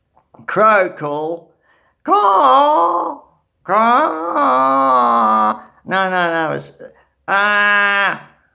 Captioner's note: calls badly